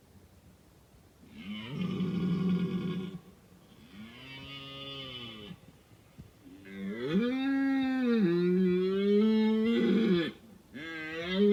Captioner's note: red deer roaring